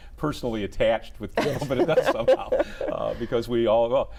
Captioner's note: laughs